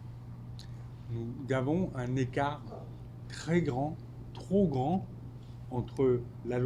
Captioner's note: speaking French